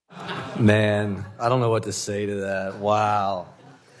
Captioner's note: laughter